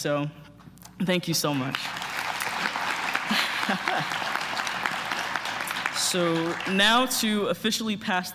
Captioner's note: applause